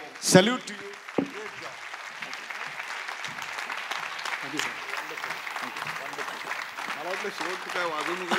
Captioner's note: applause